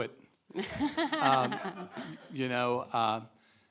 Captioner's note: all laugh